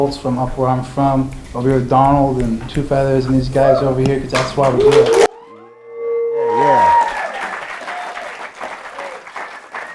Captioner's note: applause